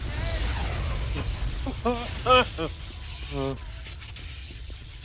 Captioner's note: nervous laughter